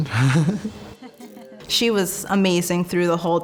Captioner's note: chuckling; laughing